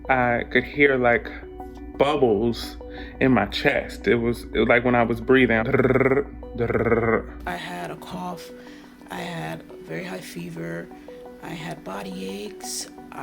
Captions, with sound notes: I could hear like bubbles in my chest. Like when I was breathing (grunts heavily). - I had a cough, I had very high fever, I had body aches,